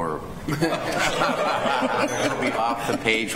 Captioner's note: laughter